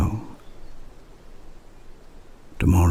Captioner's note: wind and birdsong